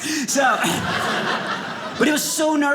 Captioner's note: audience laughing